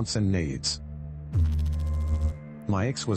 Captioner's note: electrical noise